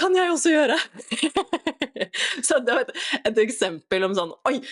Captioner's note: laughter